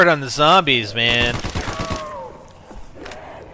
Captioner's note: gunfire sounds